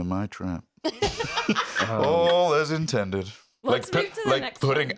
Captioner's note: laughs